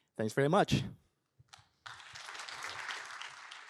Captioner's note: applause